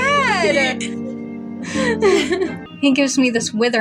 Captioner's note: sad Music; both Chuckle; chuckle